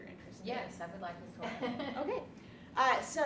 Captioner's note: laughs